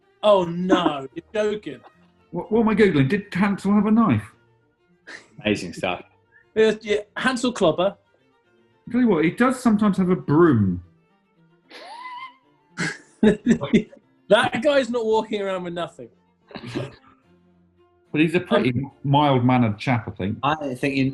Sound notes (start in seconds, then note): 6.6 chuckling; 12.8 chuckling; 12.8 sniggering